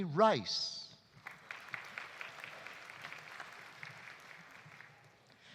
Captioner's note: audience applauding